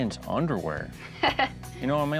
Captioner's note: laughs